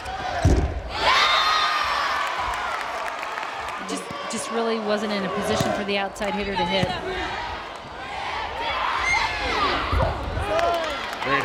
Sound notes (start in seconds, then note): 1.1 crowd and players cheering; 7.9 players yelling